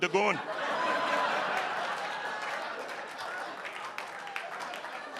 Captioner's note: audience laughing